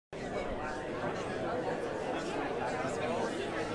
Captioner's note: crowd chattering